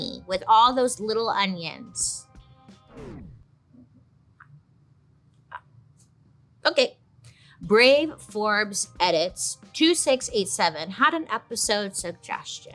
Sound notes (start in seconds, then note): none